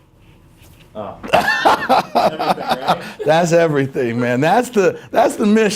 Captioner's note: laughs